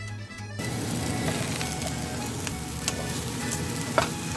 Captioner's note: Sizzle Sizzle Sizzle